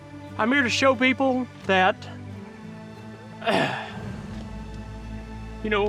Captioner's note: clears throat